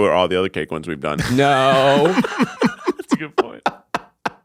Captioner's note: all laughing